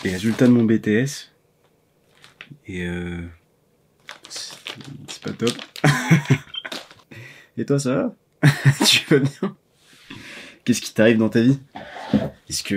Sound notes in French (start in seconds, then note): 8.4 rires